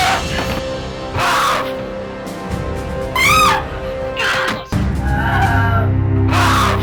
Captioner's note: guns firing; woman screams